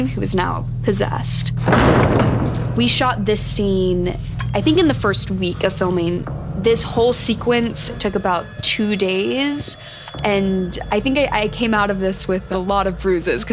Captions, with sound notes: who is now possessed. (door slams) We shot this scene, I think in the first week of filming. This whole sequence took about two days. And I think I came out of this with a lot of bruises